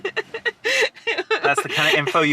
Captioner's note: laughing